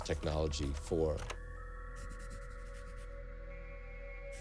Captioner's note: pencil scribbling